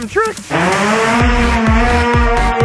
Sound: hoverboard buzzing; upbeat techno music

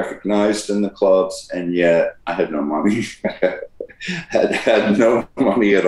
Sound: laughs

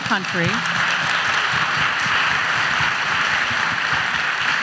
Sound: audience applauds

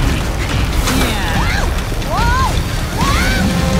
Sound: grunting; Angela gasps

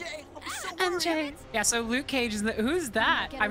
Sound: sweetly

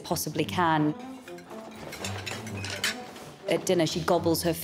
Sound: metal clinking

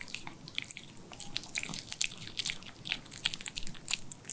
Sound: chomping chomping

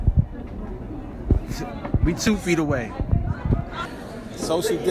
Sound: scoffing

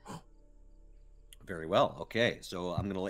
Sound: gasps

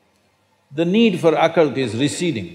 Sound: none

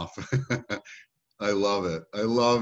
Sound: laughing

